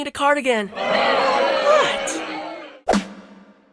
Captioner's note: audience boo SFX